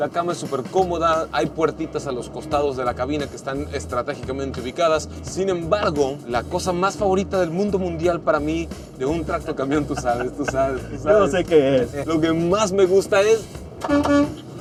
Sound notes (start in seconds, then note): 9.7 laughter; 13.8 horn honking